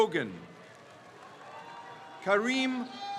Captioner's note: crowd cheers